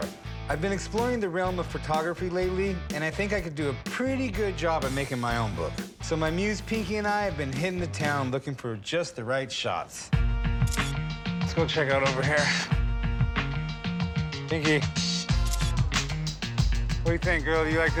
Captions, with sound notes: I've been exploring the realm of photography lately, and I think I could do a pretty good job of making my own book. So my muse, Pinky, and I have been hitting the town looking for just the right shots. Let's go check out over here. [upbeat music] Pinky. [camera shutter snaps] What do you think, girl? You like this?